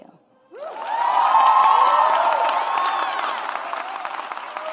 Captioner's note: audience applauds